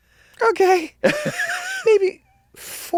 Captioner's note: laughs